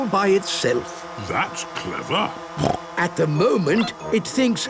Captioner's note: snorting